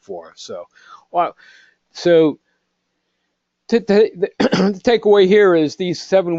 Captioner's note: cough